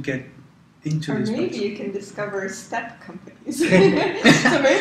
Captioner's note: laugh